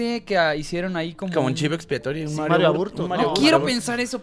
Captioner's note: indistinct chattering